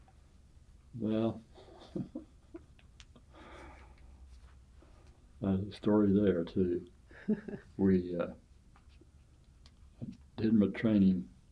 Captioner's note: laughs